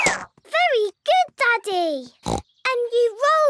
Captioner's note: snorts